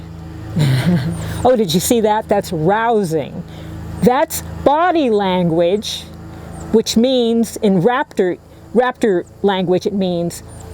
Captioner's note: in raptor language